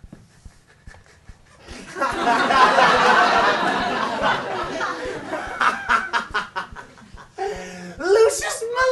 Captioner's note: Voldemort laughs